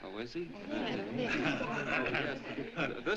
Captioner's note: laughter